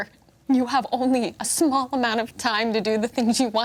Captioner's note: none